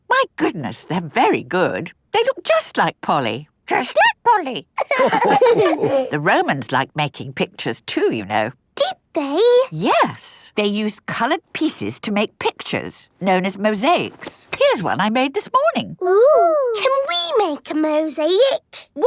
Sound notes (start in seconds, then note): 4.8 all laughing